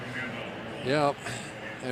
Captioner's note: pa announcement